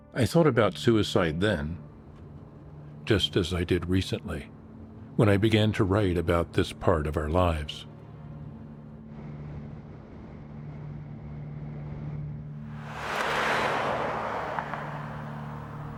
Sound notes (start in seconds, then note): 12.7 car revving